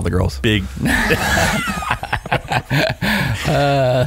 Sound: laughing

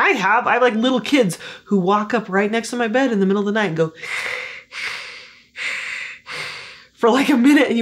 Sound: heavy breathing

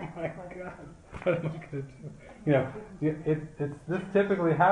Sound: laughter

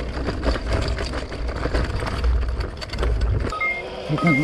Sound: bike clattering; beeping

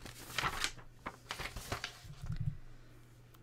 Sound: page turning

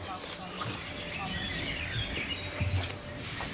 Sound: birds chirping

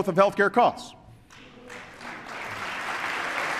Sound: applause

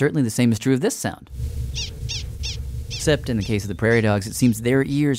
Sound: prairie dog chirping

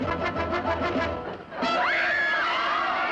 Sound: screaming

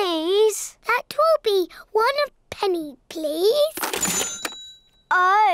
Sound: dings

